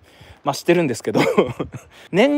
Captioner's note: laughs